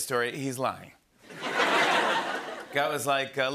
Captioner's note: laughter